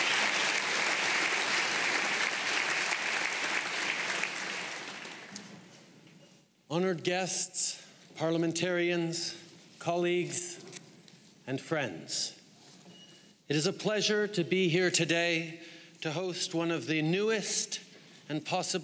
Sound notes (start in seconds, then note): 0.0 applause